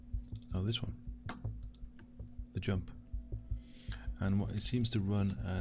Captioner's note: clicking